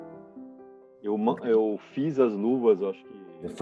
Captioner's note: speaking in Portuguese